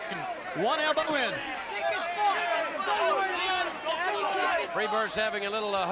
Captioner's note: crowd chatter